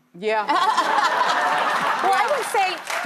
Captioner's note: audience laughs